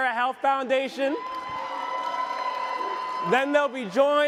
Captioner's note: audience cheers